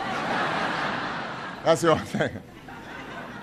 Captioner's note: laughter